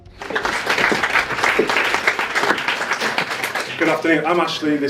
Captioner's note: audience applauds